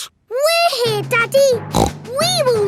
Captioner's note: snorts